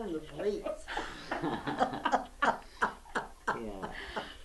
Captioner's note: laughter